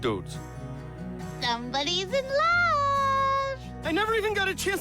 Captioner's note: singsong voice